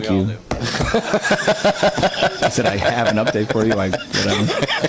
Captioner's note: laughs